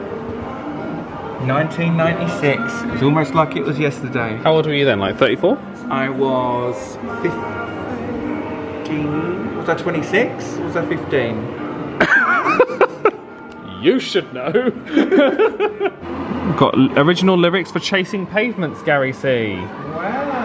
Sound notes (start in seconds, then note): 12.0 laughs; 14.4 laughs